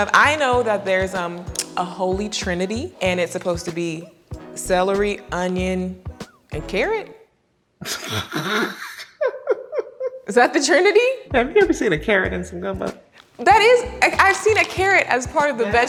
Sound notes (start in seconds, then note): 7.9 laughing